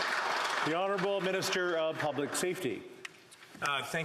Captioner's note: applause